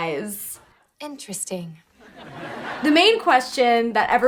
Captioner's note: audience laughs